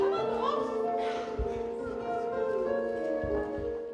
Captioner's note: Nana wimpers